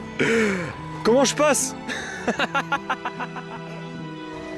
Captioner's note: laughs